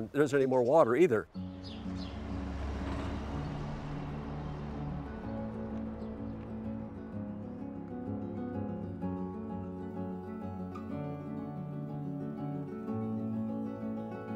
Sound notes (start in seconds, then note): 1.2 truck rumbles; 1.7 slow acoustic music